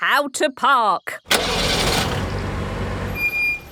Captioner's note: breaks squeaking; car engine starting